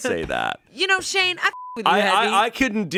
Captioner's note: beep